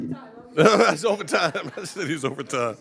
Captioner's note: laughing